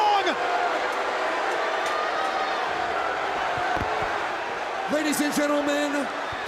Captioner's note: crowd chatter